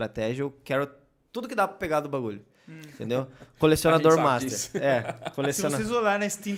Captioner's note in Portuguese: risos